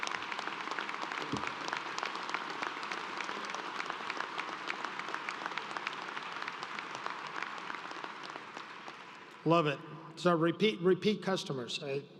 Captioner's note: applause